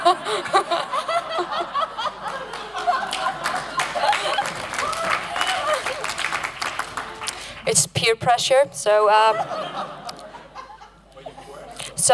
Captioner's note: applause